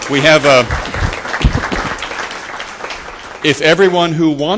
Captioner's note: applause